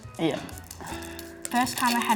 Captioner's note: groans